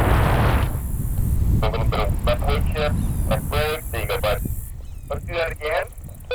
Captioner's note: roaring wind drowns out the radio